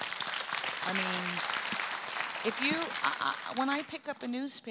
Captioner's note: strong applause from audience